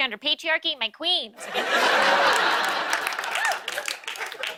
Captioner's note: laughter